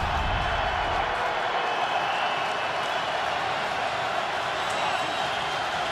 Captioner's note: cheering